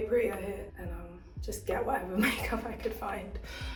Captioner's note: laughs